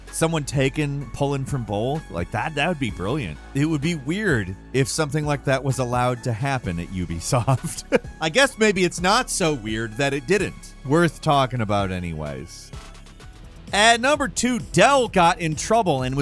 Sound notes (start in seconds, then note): 7.3 laughs